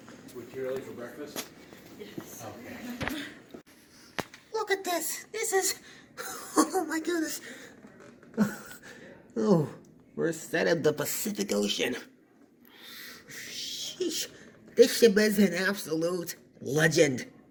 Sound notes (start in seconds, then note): 3.3 lady giggles; 8.6 excited